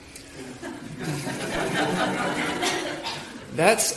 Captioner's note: laughing